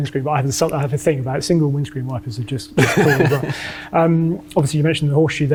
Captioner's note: laughs